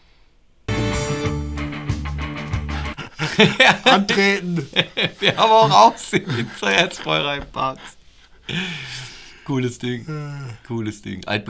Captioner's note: laughter